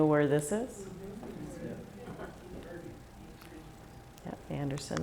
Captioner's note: murmurs from crowd